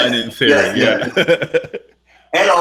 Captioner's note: laughing